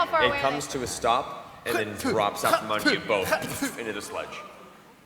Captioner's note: squish